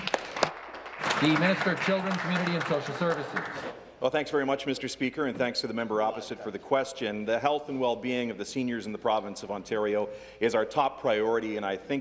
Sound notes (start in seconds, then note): 2.5 some Applause